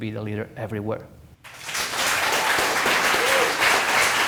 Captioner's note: applause